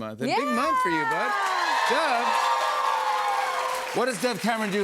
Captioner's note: cheers and applause